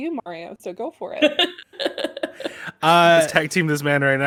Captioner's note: laughs